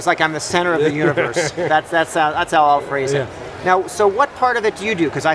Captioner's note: laughing